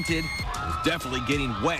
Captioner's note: cheers